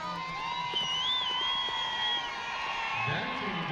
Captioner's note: crowd cheers and whistles